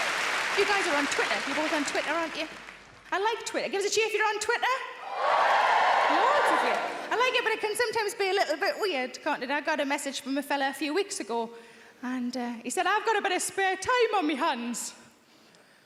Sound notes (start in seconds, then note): 5.0 audience cheering